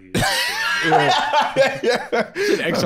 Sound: laughing

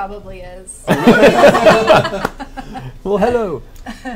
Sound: all laugh

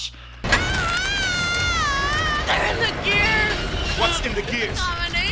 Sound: screaming

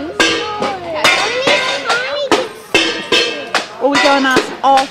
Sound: metal clangs

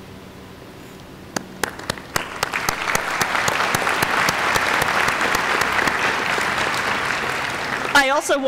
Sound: applause

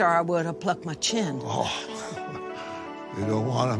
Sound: chuckles

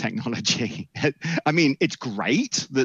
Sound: chuckles

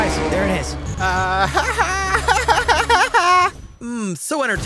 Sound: mocks; screams; laughs

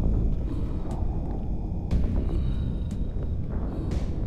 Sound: none

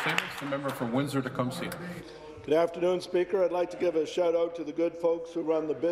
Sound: applause

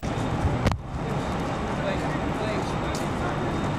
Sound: chatter

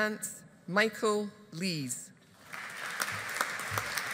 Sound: audience applauding

